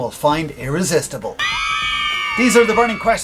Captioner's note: women screaming in delight